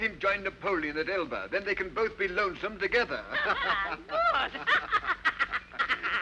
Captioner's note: laughing; laughs